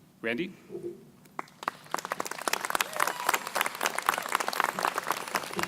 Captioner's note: crowd applauding